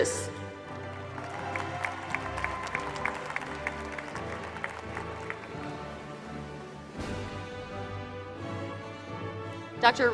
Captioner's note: applause